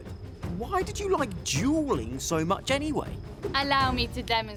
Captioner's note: none